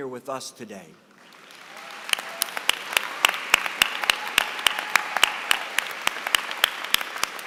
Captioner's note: applause